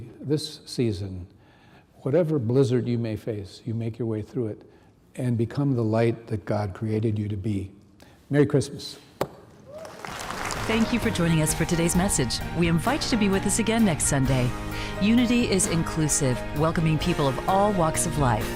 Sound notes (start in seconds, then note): 9.7 applause